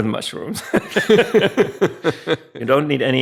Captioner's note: both laughing